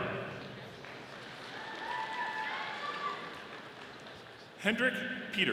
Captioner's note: audience applauding